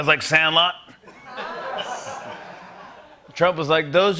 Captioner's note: laughter